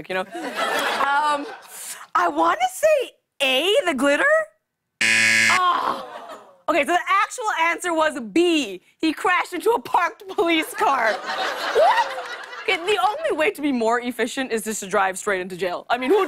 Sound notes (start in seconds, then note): 0.3 laughter; 5.0 buzzer; 10.3 laughter